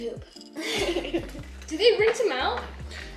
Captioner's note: laughs